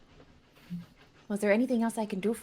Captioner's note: none